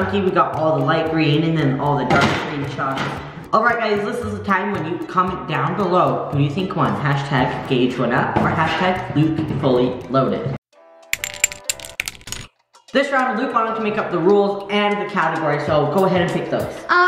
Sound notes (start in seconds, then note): 11.1 upbeat music; 11.1 clinking